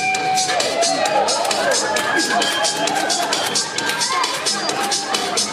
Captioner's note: audience applauding